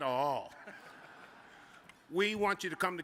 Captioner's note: audience chuckles